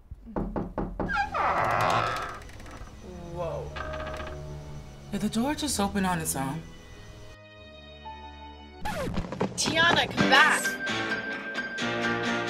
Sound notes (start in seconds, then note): 0.2 hinges creak; 0.3 knock on door